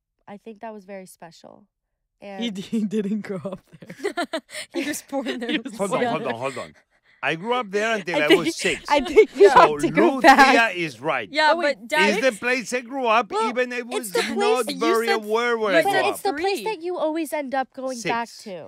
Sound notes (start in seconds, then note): 2.4 laughing